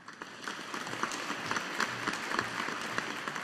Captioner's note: audience applauding